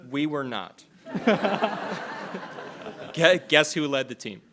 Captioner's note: attendees laughing